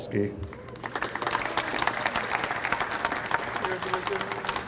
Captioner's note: audience applauds